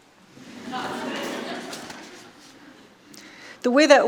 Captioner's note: audience laughing